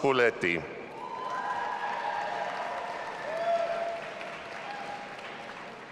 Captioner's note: audience applauding and cheering